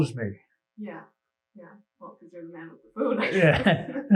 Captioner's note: laughs